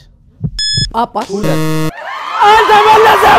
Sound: scream

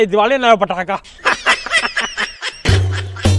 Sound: laughing

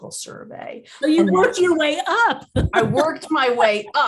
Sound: laughing

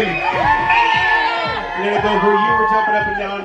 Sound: guests cheer

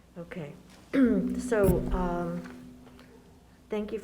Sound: clears throat

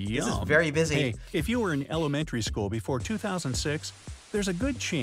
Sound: voice-over

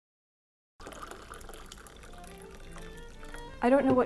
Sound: water pouring

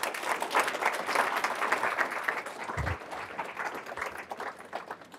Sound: applause

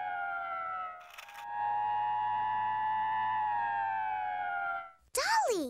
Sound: fire truck siren

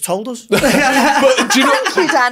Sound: laughing

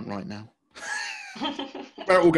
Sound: laughing

